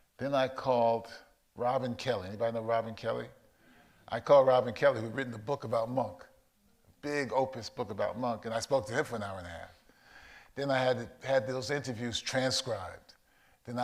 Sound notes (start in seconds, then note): none